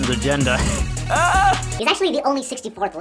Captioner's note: laughs loudly